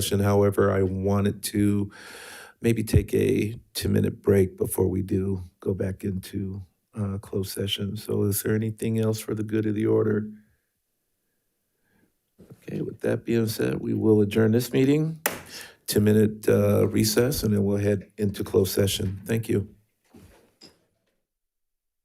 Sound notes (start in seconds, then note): 15.2 gavel taps